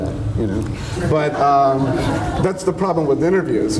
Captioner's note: audience laughs